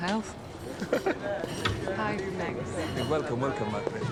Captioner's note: chuckles